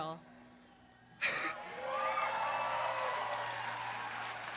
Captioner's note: cheering